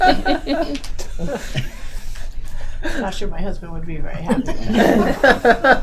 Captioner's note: laughing